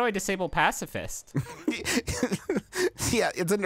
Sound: laughing

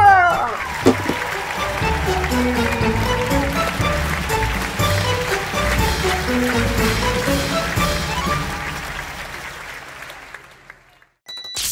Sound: audience clapping

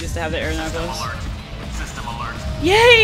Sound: sirens

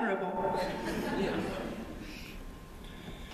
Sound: laughter

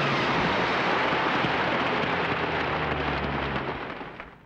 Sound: applauding

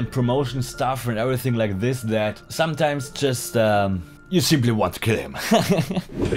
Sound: haha

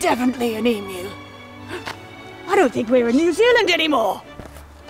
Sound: gasps

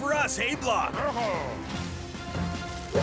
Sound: speaking Brislovian

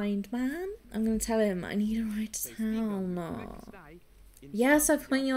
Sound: whining

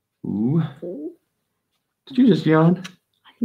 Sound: yawns

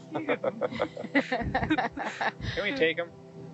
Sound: laughing

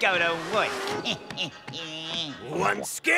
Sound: malicious chuckle

